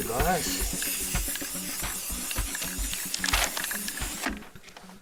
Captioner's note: canister spraying